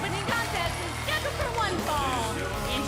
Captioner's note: bell ringing